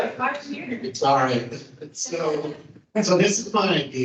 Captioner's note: laughs